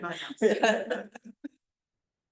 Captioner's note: laughter